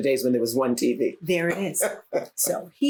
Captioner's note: laughs